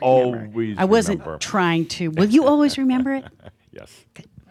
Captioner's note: chuckles